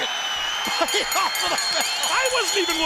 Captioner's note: bell ringing